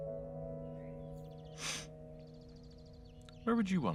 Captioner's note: sniff